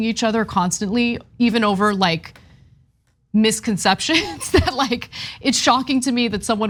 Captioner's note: laugh